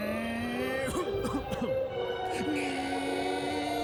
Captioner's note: cough